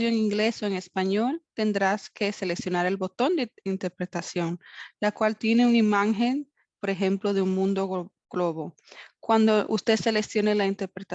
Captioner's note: spanish interpretation